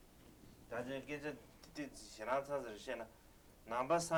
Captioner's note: non-english speech